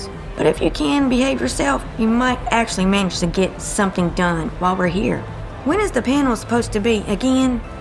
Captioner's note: none